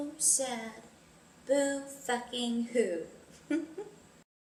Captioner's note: giggles